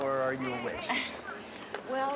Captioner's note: laughing